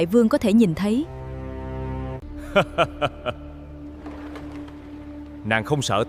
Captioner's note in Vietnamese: tiếng cười